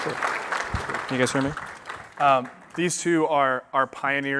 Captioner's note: applause